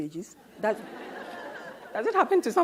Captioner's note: audience laughs